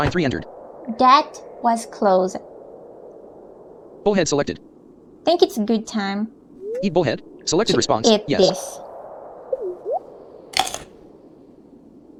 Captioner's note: sounds of a fish being eaten